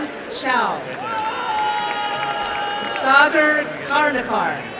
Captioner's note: applause and cheering